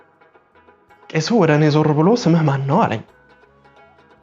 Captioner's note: in amharic